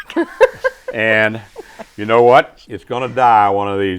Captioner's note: laughing